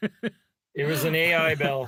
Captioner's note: laughing